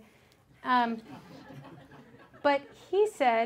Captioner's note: audience laughs